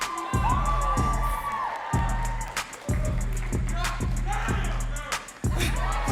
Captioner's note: audience cheering and clapping